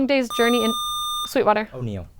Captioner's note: buzzer